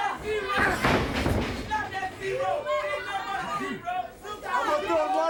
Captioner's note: body thudding; blows thudding